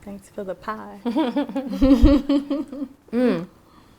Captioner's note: laughing